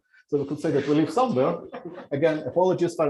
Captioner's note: laughter